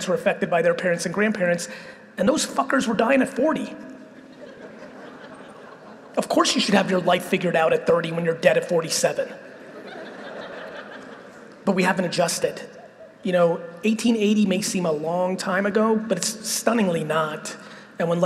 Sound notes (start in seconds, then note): 4.1 audience laughing; 9.5 audience laughing